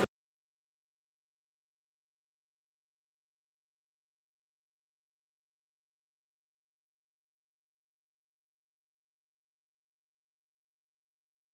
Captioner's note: no audio